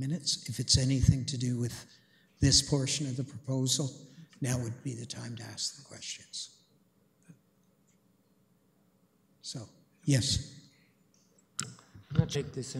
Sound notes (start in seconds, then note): 10.3 audio drop